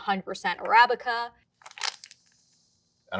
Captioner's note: bag rustling and wheezing